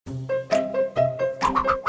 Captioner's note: scratch Scratch